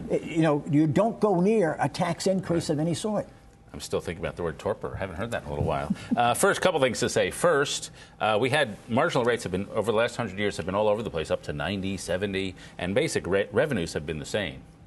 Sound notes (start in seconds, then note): 5.7 laughter